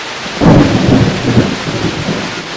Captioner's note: thunderclap